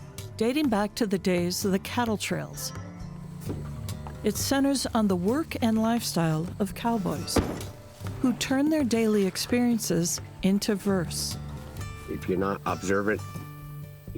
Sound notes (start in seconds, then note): 7.3 door clank shut; 10.9 soft music